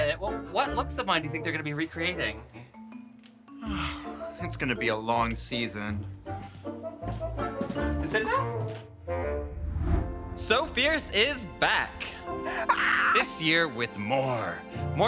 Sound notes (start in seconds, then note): 3.5 sighs; 6.5 whimsical music; 7.0 shoes clacking; 9.5 image whooshes